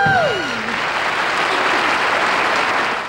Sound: audience applauds

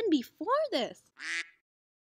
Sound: quack

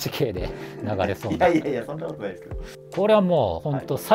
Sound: laughing

